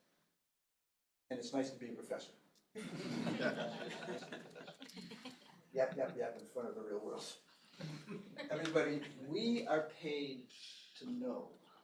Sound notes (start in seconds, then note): 2.7 laughter